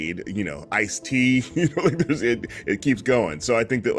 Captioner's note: chuckles